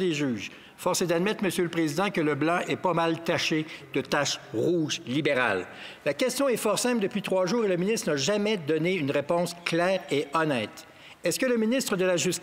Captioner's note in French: voix de l'interprète